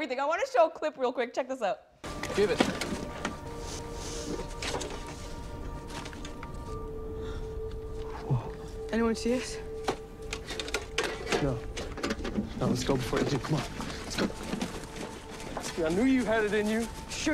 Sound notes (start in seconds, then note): 3.7 inhales deeply; 5.9 dramatic music